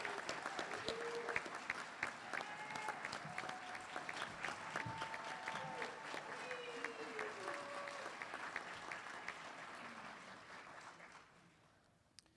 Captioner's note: applause